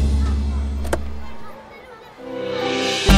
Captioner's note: Car door opens